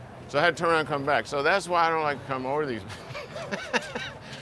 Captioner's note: laughs